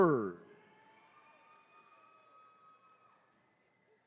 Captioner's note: attendees cheering